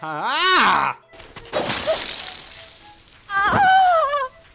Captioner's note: blood gushes out; Jane screams